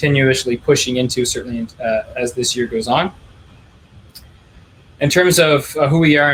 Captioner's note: clicking